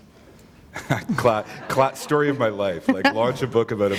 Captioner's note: chuckle